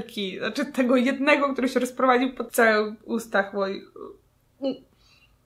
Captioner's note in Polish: ugh